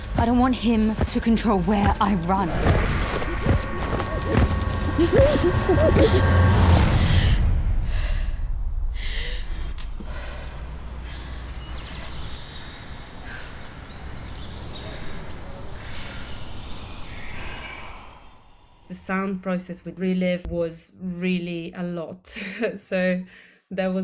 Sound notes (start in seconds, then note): 4.8 panicked breathing; 10.6 deep breathing